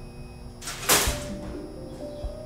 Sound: clang

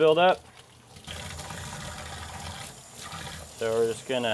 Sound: water runs

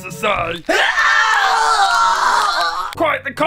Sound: very insightful scream

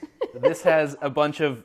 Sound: laughs

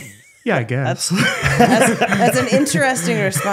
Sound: both laughing

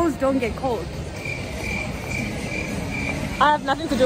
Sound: crickets

